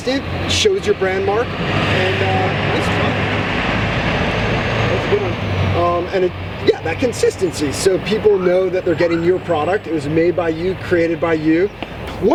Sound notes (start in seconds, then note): 1.9 thats a truck driving